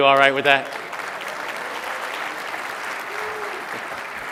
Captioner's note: applause